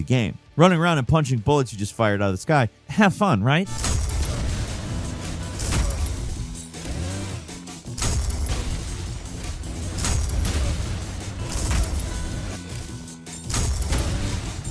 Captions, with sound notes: Running around and punching bullets you just fired outta the sky, have fun, right? (intense music) (explosions blasting)